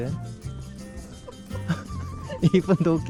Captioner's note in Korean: 또 터진 웃음